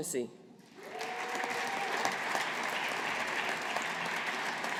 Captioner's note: audience applauding